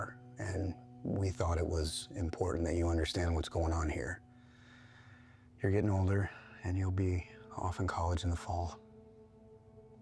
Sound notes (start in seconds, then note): 4.3 inhales